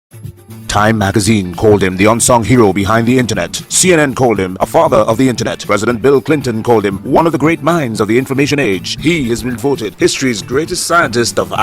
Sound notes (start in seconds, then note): 0.0 radio Announcer